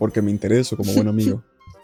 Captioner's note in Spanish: risa nerviosa